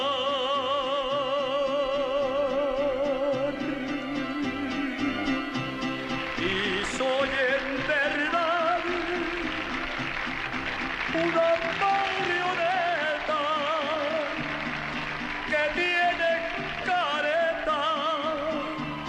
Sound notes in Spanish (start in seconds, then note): 1.8 Aplausos